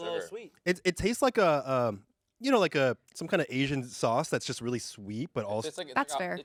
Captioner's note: none